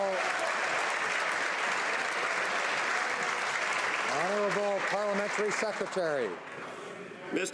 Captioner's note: some Applause